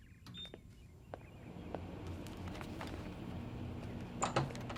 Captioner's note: microwave whirring